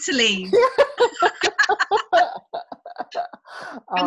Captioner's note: both laughing